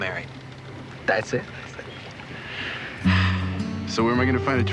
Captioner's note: sigh